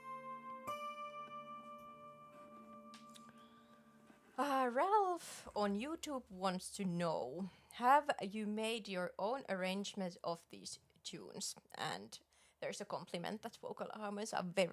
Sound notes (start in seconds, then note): none